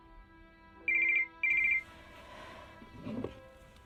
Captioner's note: phone rings